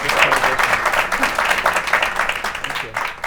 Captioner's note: audience clapping